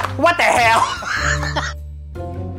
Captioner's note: laughs; quirky mellow music